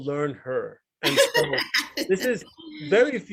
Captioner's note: laughs